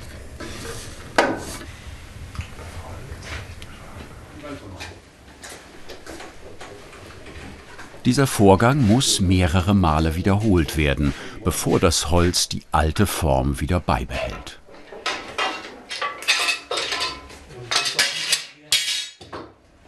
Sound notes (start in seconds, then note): 14.9 clank and clink